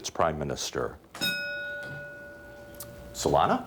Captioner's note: ding